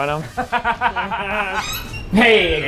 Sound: laughs

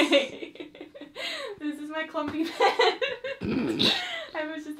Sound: laughs; laughs

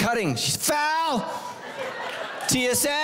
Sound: congregation laughing

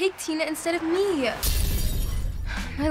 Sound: glass shatters

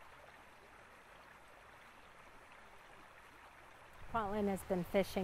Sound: light sounds of running water at Bear Creek Park

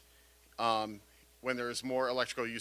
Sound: none

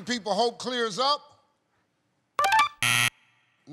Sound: buzzer

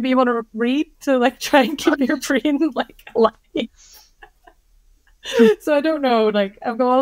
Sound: laughing

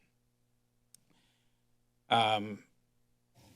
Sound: breaths deeply

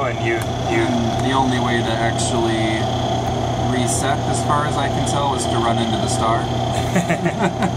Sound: laughter from both

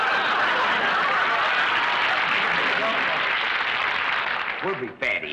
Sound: audience applauds

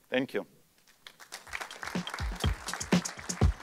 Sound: applause

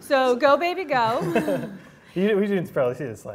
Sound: laughs

